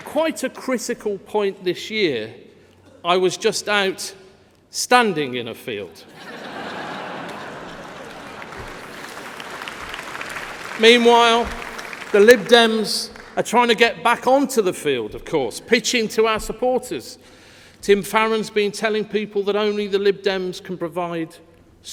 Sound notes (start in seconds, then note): 9.4 laughter